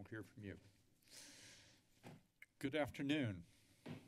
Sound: deep breathe

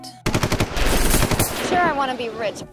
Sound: machine gun fire

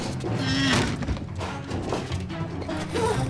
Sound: crashing sound

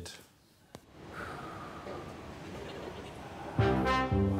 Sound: exhales

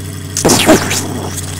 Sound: explosion

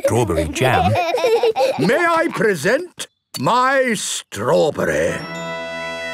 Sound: laughing

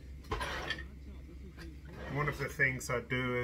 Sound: scraping

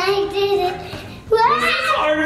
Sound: screams

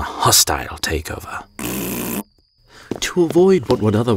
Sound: Adonijah blowing raspberry

